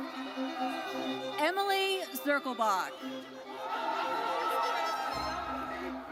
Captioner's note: audience cheers